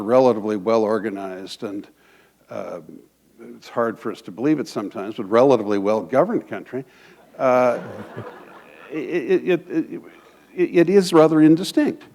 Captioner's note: laughter